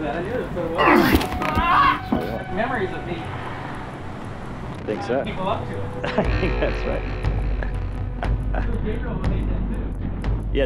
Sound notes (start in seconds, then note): 0.8 man screaming; 6.0 laughing